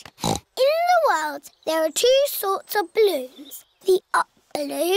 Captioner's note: snorts